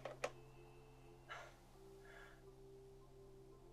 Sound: laughs

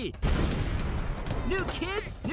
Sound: crashing

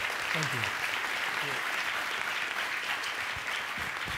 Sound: applause

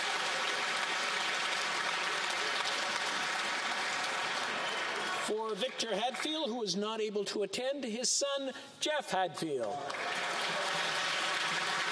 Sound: applause

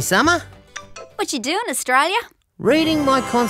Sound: phone beeps

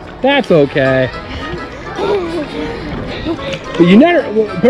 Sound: laughs

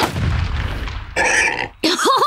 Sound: oinking; chuckles

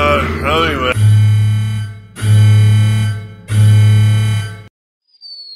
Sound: broken elevator noises

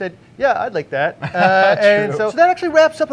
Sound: laughing

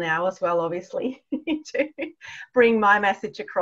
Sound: laughs

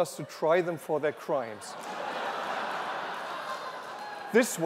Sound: laughter

